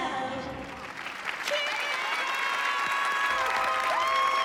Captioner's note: applause and cheering